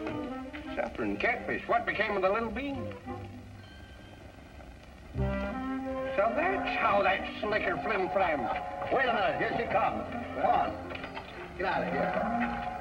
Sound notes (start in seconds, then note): 6.0 train whistle